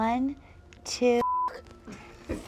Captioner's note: beep